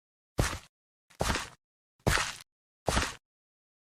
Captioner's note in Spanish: pasos